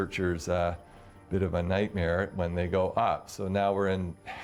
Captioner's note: voiceover